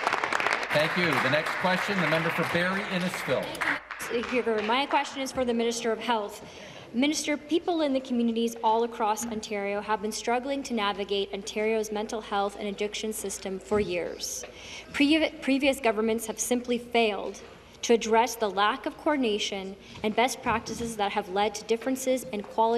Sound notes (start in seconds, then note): 4.5 applause